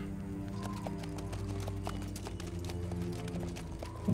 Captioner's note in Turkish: Nal sesleri